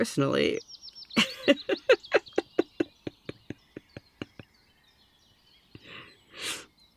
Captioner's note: laughing